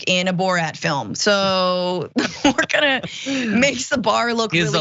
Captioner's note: laugh